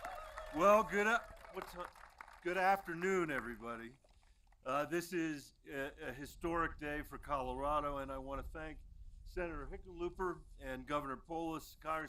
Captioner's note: applause